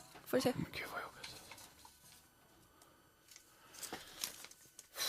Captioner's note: whispers